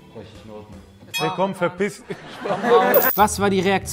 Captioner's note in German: Lachen